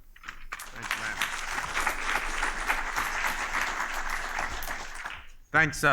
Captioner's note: applause